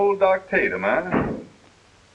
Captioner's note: door closing